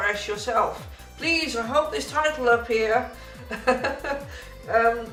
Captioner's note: laughs